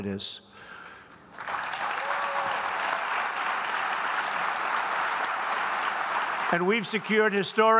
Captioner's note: applause